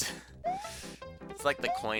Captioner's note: inhaling